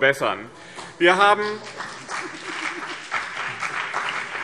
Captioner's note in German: Beifall BÜNDNIS 90/DIE GRÜNEN und CDU